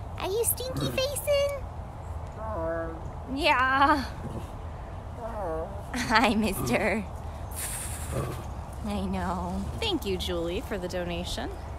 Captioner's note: moaning